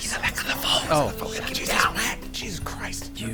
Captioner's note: whispering